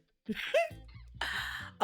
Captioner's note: laughs